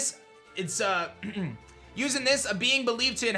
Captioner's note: clears throat